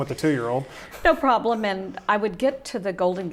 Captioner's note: laughs